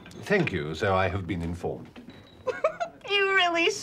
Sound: giggling

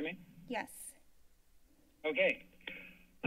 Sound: silence

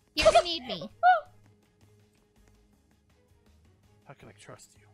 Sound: stabbing; laughs

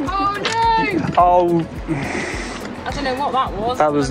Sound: gasps

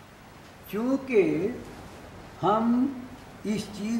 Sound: in Hindi

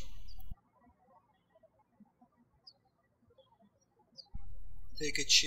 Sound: birds chirping

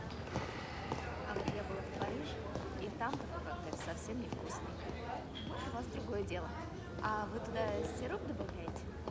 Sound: indistinct conversations

